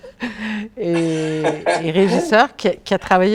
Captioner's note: laughter